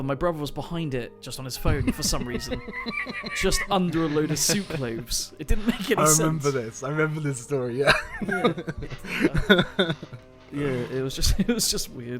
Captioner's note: laughter; more laughter